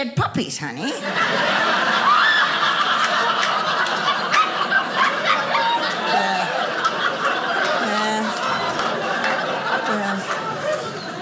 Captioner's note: audience laughing